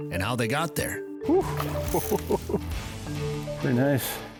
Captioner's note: laughs